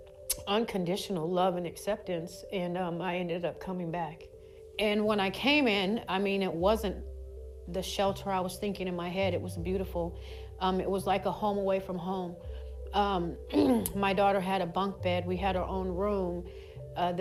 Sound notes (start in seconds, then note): 13.5 clears throat